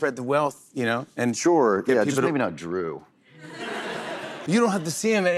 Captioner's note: laughter